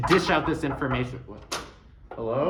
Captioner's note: sound of door opening